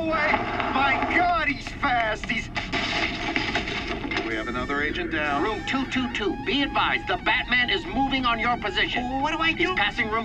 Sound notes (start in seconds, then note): 2.6 crashing